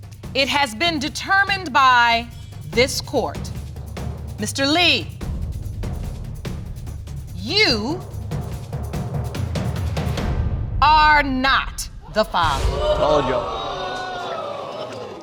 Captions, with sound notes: It has been determined by this court, Mr. Lee, you are not the father. (AUDIENCE EXCLAIMING) Told you.